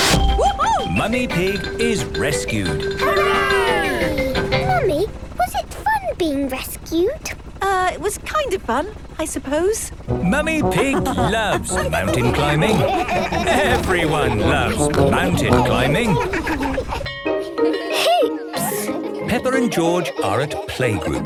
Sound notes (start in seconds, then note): 9.2 beeping and laughing; 15.4 laughter; 16.4 beeping